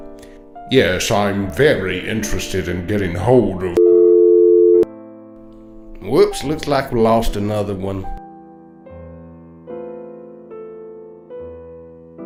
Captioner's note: dial tone